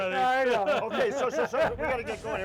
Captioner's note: laughing